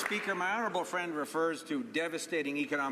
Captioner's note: some Applause